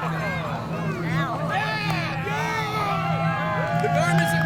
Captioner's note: cheering